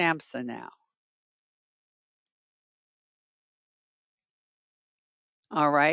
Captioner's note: 5 seconds pause